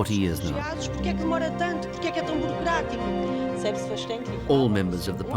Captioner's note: speaking various languages